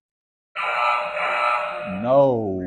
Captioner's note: error sound effect